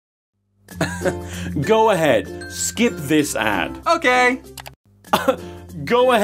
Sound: upbeat music; click

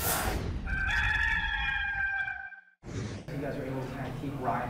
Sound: rooster crowing

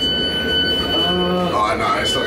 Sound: train beeping

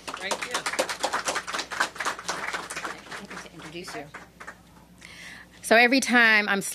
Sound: applause

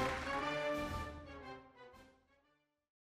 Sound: applause

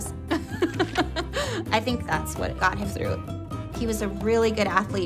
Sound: laughs

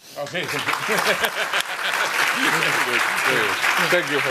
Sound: applause

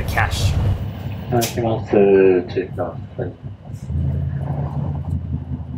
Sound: bus annoucement in japanese

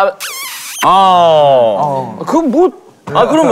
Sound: smack on the lips

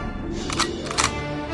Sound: guns cocking

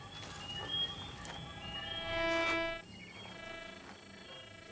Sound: loud electrostatic noise

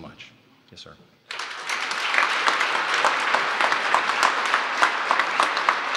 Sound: applause

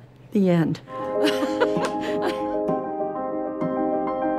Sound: laughs

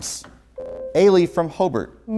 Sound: buzzer

